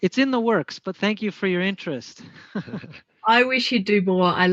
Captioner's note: laughs